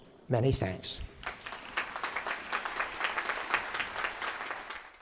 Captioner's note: applause